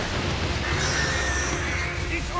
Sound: screeching

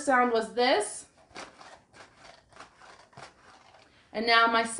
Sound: crunching

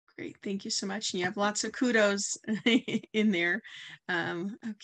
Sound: chuckles

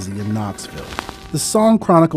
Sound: record turns

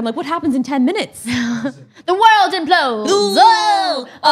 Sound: laughs

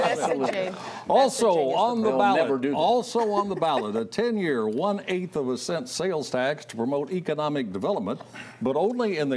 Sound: laughter

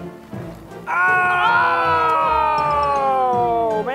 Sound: yelling

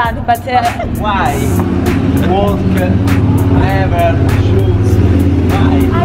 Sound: in poor English

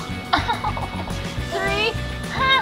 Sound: laughing

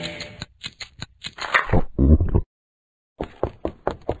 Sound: gulps

